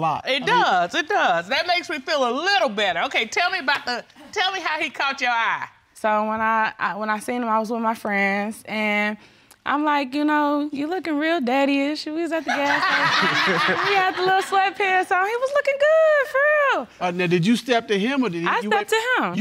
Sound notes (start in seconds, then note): 12.5 all laughing